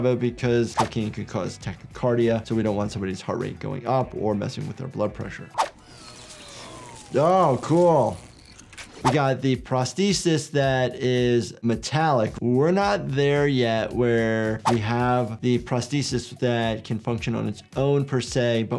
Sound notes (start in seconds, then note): 5.6 robotic arm whirs and buzzes